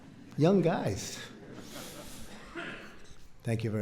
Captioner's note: laughter